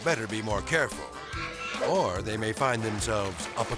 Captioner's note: melodic music; swan squawking